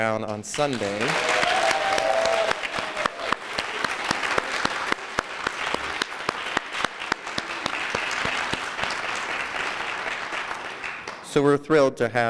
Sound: applause

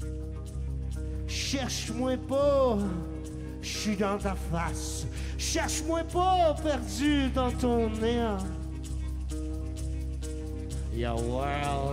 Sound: speaking French

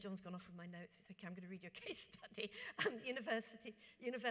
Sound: laughs

